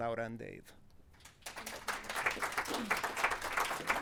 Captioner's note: applause